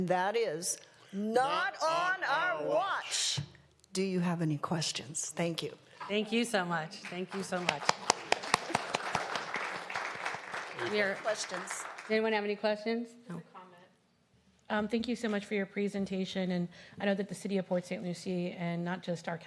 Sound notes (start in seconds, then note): 12.7 applause